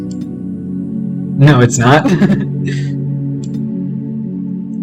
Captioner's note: laughter